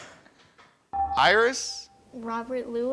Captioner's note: buzzer chimes